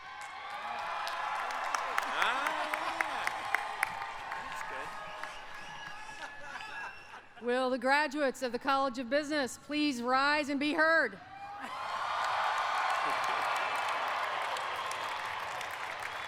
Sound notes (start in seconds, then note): 6.2 applause